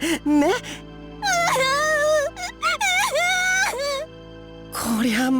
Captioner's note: waterworks